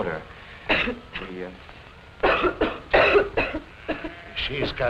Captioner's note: coughs